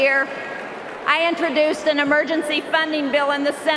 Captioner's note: cheering and applause